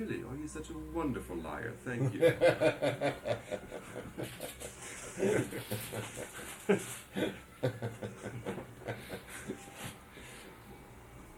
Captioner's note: laughter